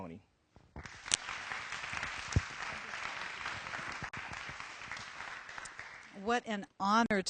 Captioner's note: applause